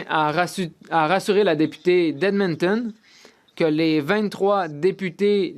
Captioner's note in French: voix de l'interprète